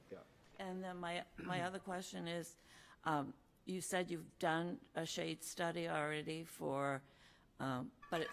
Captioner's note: clears throat